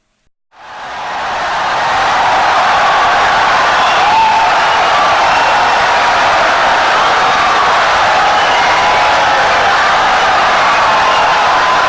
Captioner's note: wild applause and cheering for 17 seconds